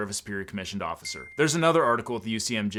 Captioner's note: bell chimes